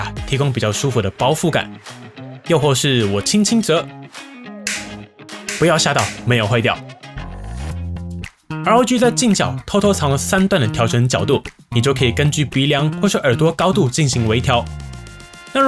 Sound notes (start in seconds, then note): 4.7 click!